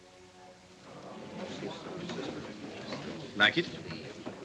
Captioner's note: murmuring